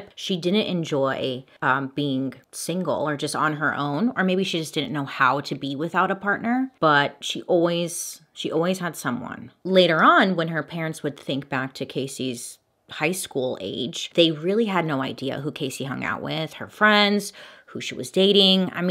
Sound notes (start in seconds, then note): none